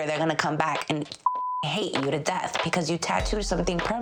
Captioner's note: beeps